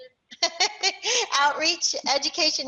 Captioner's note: laughs